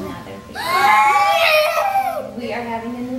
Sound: children exclaiming

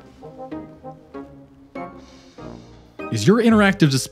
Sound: sad sigh

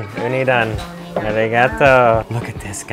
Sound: speaks in foreign language

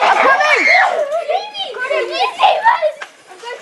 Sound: excited screaming

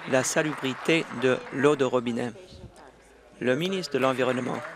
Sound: applause

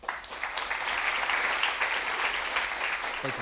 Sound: applause

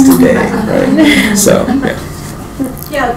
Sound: laughing

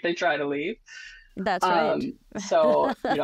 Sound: laughs

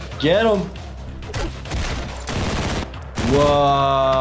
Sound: gun shooting; fist thumps smashing

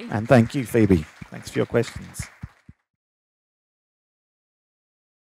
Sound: loud applause

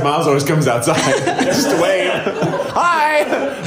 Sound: laughing

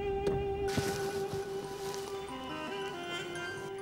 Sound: phone ringing

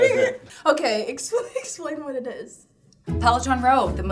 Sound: laughing

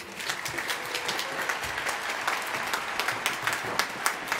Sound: applause

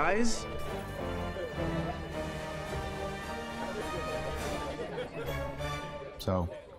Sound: playful orchestral music; party guests chattering

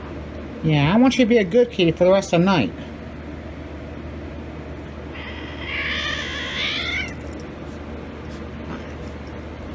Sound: Caprice yowls

